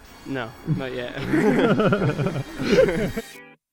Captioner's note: group laughing